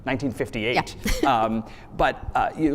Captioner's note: chuckles